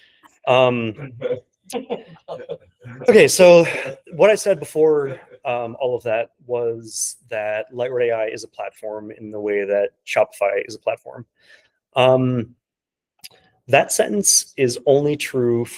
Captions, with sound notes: (colleagues laughing) Okay, so what I said before all of that was that Lightward AI is a platform in the way that Shopify is a platform. That sentence is only true